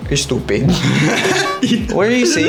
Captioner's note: laughs